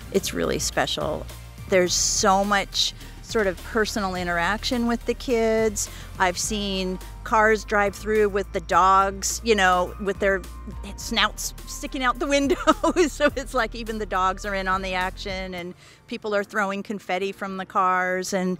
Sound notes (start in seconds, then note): 12.5 laughs